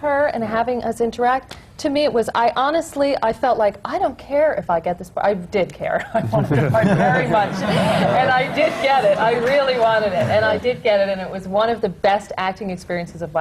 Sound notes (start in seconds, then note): 6.0 laughter